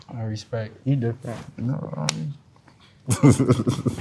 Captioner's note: hands smack; laughs